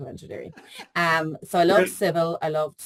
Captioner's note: laughing